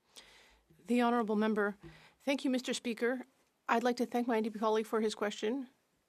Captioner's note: speaking French